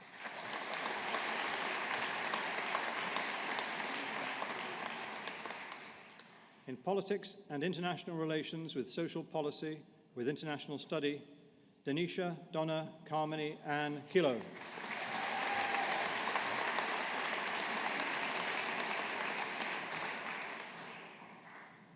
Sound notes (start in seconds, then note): 0.0 audience applauding; 14.5 audience applauding